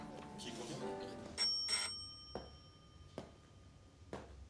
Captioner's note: doorbell ringing